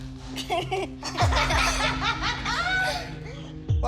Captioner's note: laughter